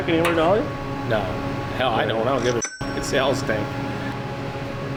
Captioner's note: ding